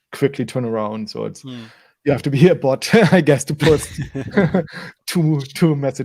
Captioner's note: laughs